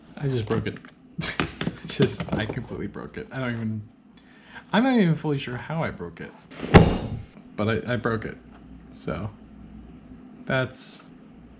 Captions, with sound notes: I just broke it... I just... I completely broke it I dont even I'm not even fully sure how I broke it *T H W A C K* but I...I broke it so... ...that's...